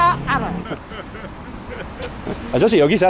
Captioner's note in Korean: 갑작스러운 웃음소리